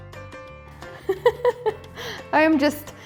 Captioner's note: giggles